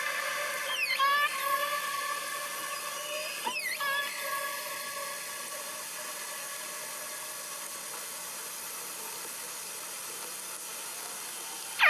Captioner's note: whale calls